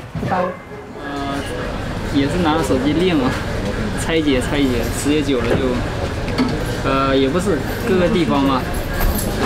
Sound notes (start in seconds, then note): 2.1 technician speaking in Chinese